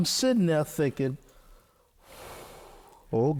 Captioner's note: exhales